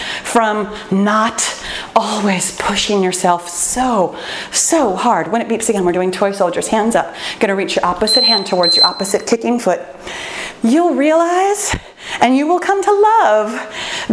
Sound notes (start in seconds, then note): 8.0 timer beeping